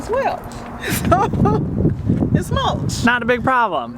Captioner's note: laugh